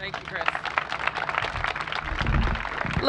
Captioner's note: applause